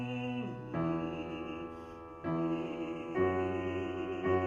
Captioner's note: humming